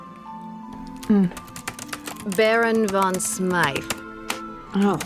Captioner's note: typing resumes